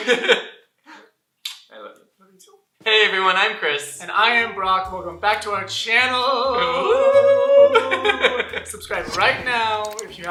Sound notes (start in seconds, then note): 0.0 laughter; 6.6 whooing